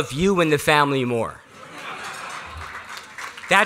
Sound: laughter

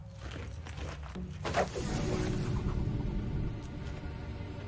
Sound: rope swooshing

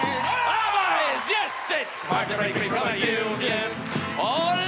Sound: whoops and Cheers

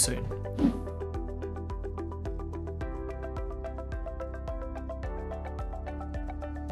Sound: soft gentle music; whooshing

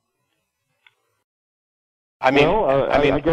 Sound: silence

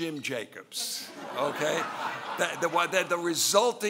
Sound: laughing

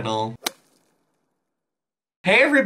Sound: golfing sound

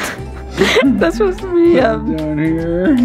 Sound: laughs

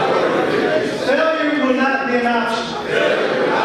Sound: audience speaking

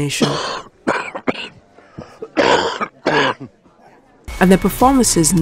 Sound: cough

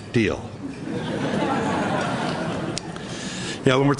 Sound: laughter

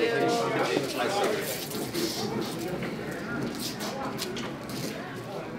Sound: people chattering

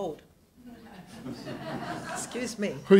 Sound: audience laughs

